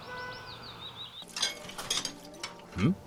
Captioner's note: dishes clinking